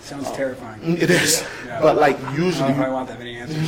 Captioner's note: laughs